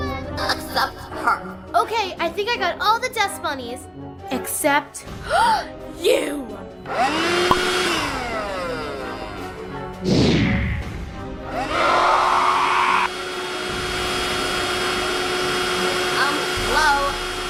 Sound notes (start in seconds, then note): 4.8 gasp; 6.9 vacuum sucks the dust; 9.9 woosh